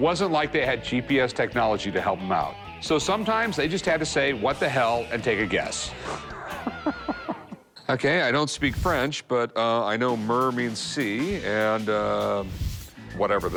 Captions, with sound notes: But it wasn't like they had GPS technology to help them out. So sometimes they just had to say, what the hell, and take a guess. [laughs] OK. I don't speak French, but I know mer means sea and whatever this says right here--